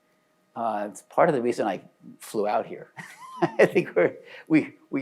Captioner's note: laughs